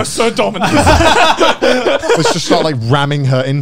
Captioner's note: laughs